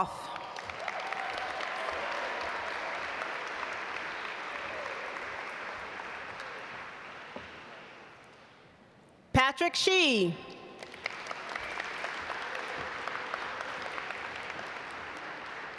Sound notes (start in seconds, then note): 0.1 audience applaud; 10.8 audience applaud